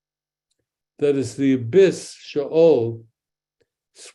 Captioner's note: speaks in Hebrew